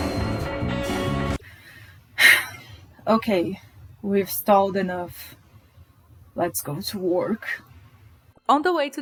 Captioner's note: sigh